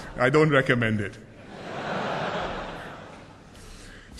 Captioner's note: laughter